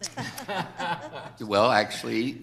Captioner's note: people laughing